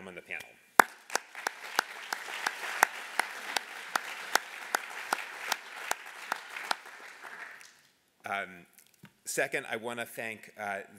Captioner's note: applause